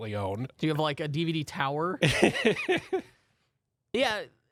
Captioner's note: laughs